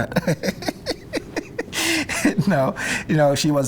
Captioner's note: laughs